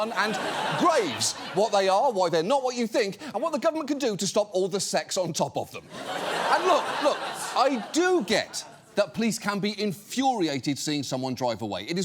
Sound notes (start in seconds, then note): 5.8 studio audience laughs